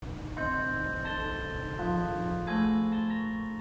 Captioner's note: bell chiming